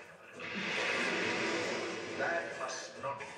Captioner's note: rocket exploding